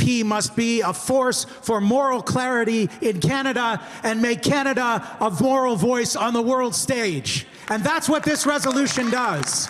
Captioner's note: some applause